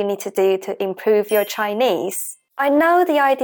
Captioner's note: Mandarin